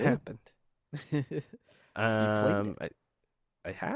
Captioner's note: laughs